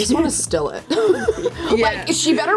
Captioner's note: laughs